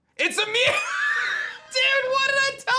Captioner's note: chuckles